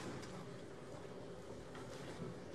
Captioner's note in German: none